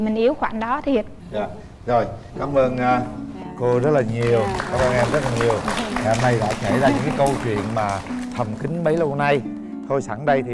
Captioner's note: applause